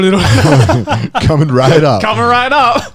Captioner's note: laughing